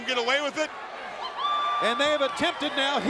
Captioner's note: attendee cheering